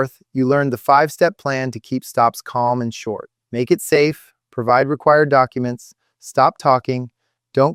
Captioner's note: exhales sharply